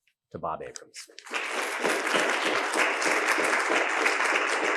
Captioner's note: audience claps